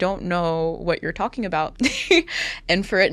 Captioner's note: chuckles